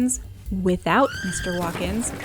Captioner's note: high pitched scream, junk crash